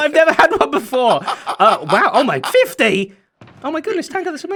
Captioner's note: laughs